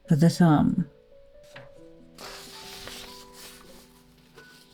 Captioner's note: rustle of paper